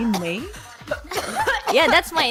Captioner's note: chouging